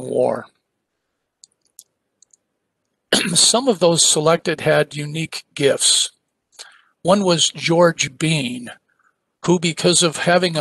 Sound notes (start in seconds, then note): 3.1 cough